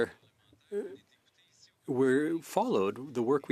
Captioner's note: speaking French